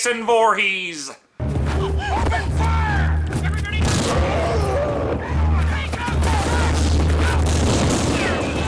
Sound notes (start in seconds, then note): 0.0 old timey radio voice; 3.8 gunshot